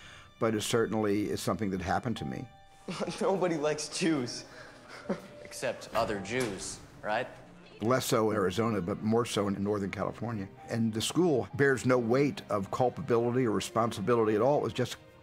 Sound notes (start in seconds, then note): 4.6 chuckles